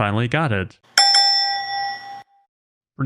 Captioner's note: bell sound effect